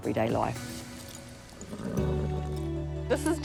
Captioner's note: horse whinnies